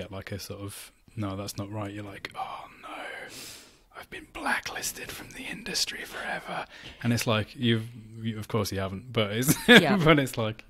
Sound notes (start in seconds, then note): 2.8 whispers; 9.5 laughs